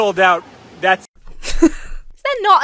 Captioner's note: laughs incredulously